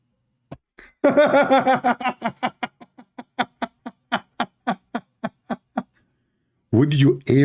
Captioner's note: Ketawa